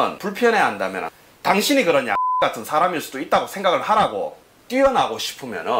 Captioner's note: beep